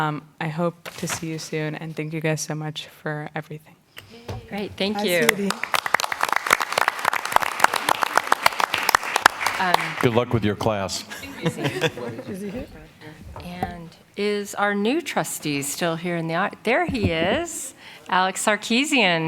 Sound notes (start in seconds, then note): 8.5 applause